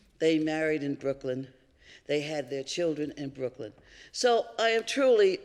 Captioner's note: none